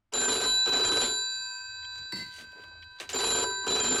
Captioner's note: phone rings